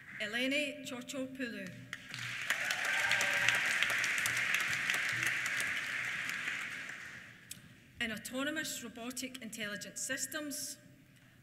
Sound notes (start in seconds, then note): 1.8 applause; 2.1 cheers